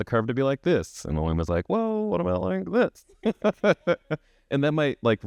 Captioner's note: chuckles